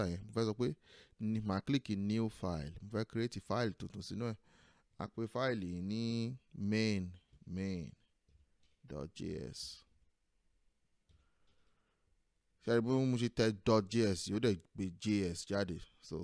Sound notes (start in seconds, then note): none